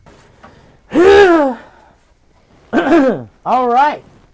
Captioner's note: women mumbles; clears throat loudly